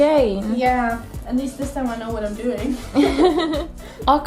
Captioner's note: laughter